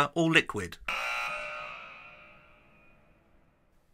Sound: buzzer gongs

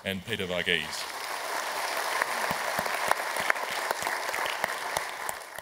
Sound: applause

